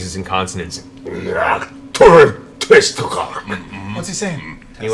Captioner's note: speaks Undercommon